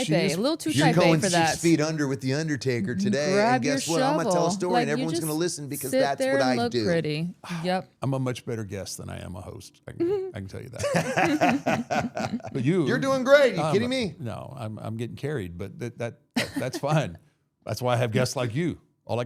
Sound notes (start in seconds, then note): 10.7 all laughing